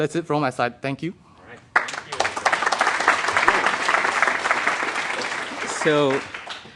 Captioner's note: applause